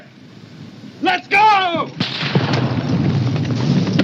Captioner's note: gunfire